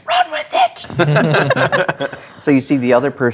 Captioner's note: players laughing